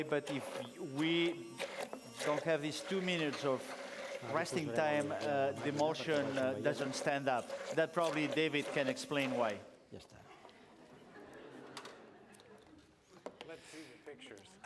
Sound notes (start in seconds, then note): 10.0 non-english; 10.2 laughter